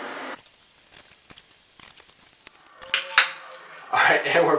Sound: tape fast forward scratching

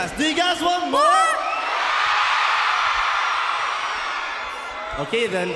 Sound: applause and cheering

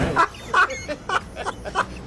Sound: laughs

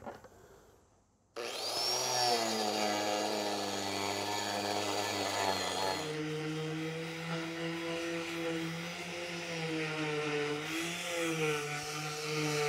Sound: grinder machine sound

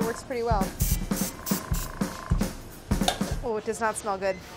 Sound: airbrush sprays

